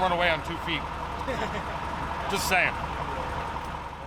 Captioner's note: laughing